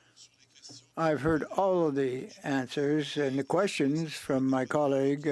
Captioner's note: speaking French